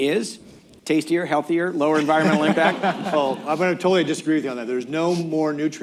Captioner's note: laughter